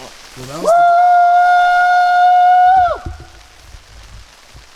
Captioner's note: howling loudly